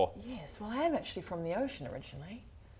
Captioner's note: none